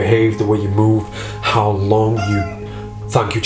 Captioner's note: toy squeaking